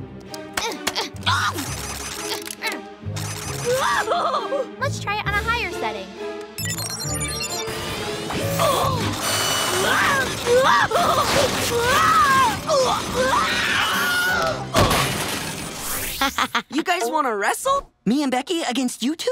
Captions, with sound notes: [grunting] Whoa! Let's try it on a higher setting. [groaning, screaming] [laughing] You guys want to wrestle? Me and Becky against you two?